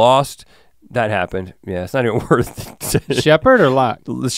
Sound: chuckles

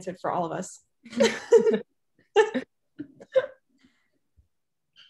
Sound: group laughing

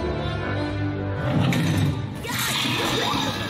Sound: thumps; screaming scared

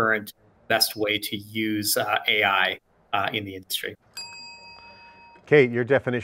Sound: bell dings

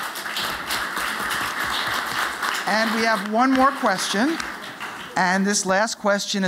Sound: applause

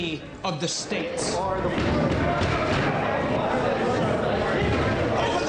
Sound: voices shouting

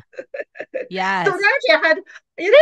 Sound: laughs

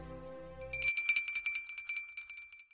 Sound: bell ring loudly

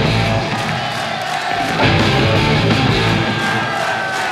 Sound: fast rock music; audience chanting

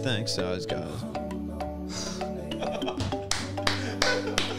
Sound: laughs and claps

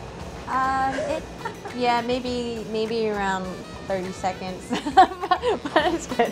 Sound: laughs

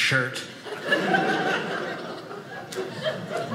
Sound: audience laughing

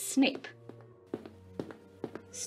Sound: footsteps continue in the background

